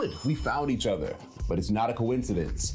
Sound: bells chime

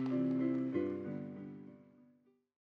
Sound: applause

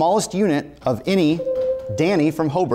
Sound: buzzer rings

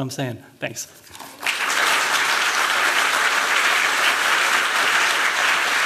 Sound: applause

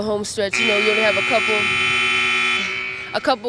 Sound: buzzer sounds

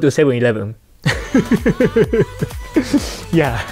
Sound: chuckles

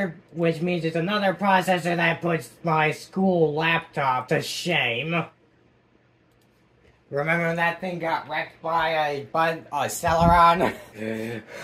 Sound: chuckles

